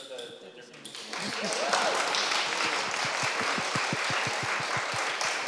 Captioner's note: applause